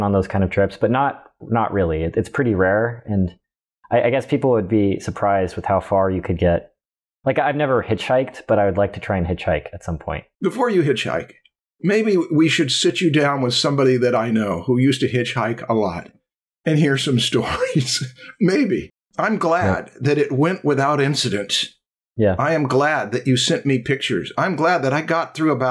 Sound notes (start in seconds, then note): 17.4 chuckles